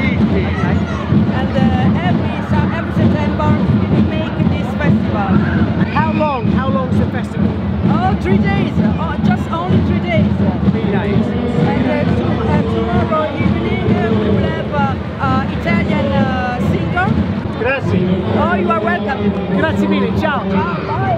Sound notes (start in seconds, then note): 17.4 speaks in a foreign language; 19.8 speaks in a foreign language